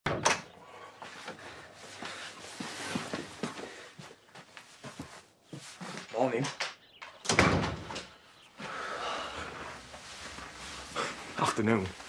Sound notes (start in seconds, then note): 0.1 door opens; 7.2 door closes